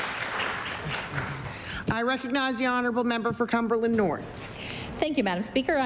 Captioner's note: applause